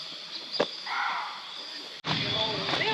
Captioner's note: song of Formosan Muntjac